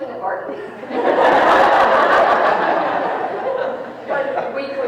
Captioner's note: people laughing